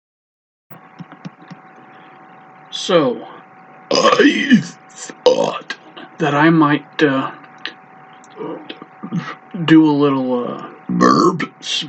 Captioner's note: BURP SPEeeeECH